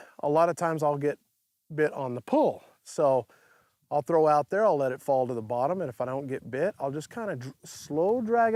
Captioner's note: none